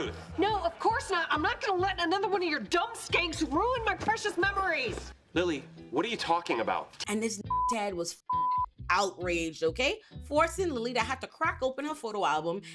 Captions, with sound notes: No, of course not. I'm not gonna let another one of your dumb skanks ruin my precious memories. Lily, what are you talking about? And this (beep) Ted was outraged, okay? Forcing Lily to have to crack open her photo album